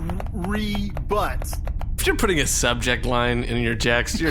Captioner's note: texting out loud